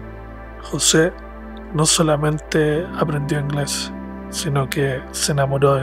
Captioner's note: narrator speaks Spanish